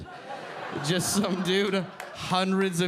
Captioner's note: audience laughing